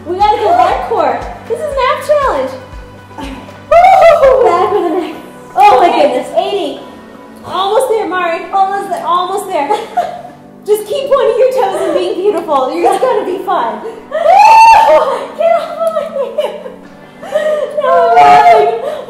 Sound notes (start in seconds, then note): 14.8 laughing